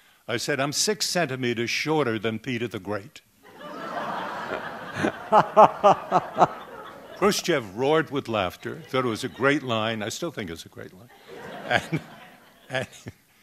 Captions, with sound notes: I said, I'm six centimeters shorter than Peter the Great. [Laughter] Khrushchev roared with laughter. Thought it was a great line. I still think it's a great line.